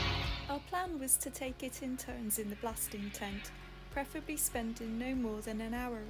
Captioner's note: voiceover